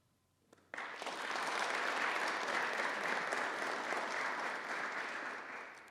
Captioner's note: applause